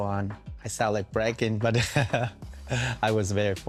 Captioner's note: laughs